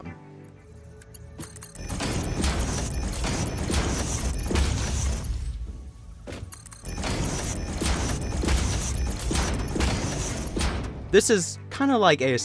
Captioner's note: the beautiful sound of belts being placed